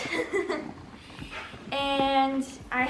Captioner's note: laughing